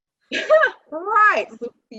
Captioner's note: laughing